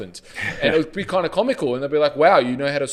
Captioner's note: chuckles